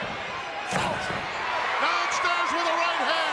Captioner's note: foot stomps